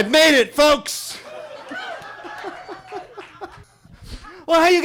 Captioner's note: attendees laughs and cheers; guy laughs